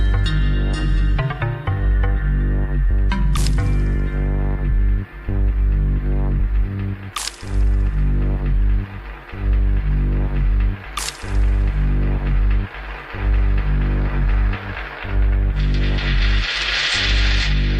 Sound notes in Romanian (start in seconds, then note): 12.3 Aplauze